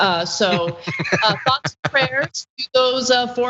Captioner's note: laugh